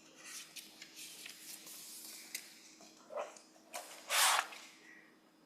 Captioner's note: papers shuffling